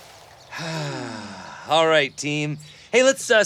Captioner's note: sighs